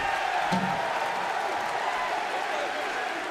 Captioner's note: cheers and applause